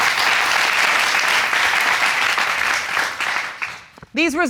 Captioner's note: audience clapping